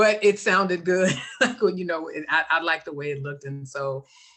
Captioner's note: laughs